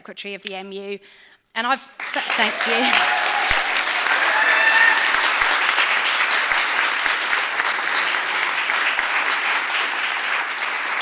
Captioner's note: applause